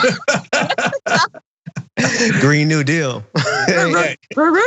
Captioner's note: laugh